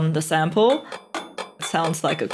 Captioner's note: clinking